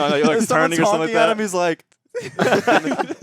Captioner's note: everyone laughing